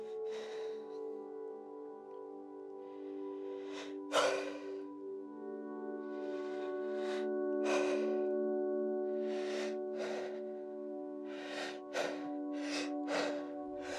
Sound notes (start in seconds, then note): 0.2 exhales; 2.8 exhales loses breath; 2.9 inhales; 6.0 slow inhale; 7.5 slow exhale; 9.2 inhales and exhales; 11.0 faster inhale and exhale; 11.3 hyperventilating